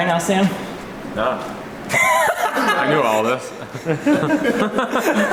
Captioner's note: laughing